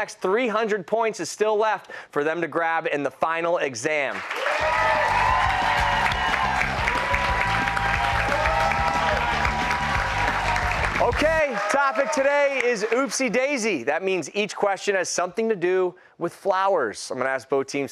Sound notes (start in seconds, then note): 4.1 cheers and applause